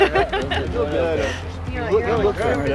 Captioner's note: laughing